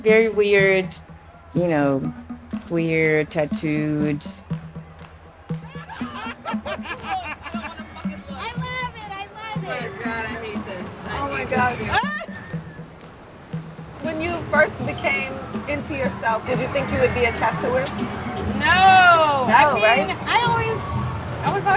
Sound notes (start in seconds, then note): 5.6 laughing; 12.4 laughter